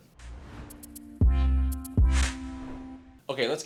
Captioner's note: graphic swooshing; chill instrumental music